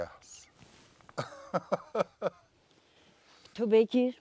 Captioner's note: laughter